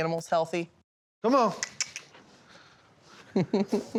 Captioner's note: clicks tongue; laughing